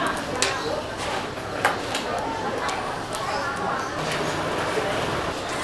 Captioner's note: haha